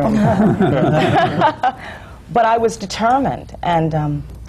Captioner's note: laughter